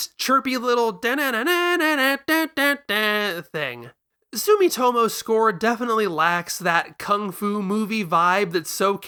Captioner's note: vocalizes